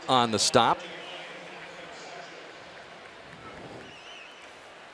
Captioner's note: pa announcement